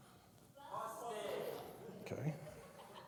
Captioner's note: crowd